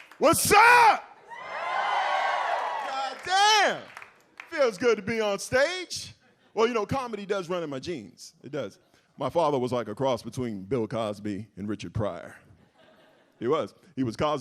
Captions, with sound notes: - What's up. (audience cheers) God damn feels good to be on stage. Well, you know, comedy does run in my genes. It does. My father was like a cross between Bill Cosby and Richard Pryor. He was,